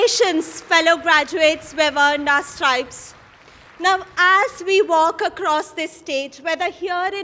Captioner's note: applause